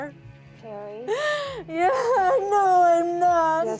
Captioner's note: crying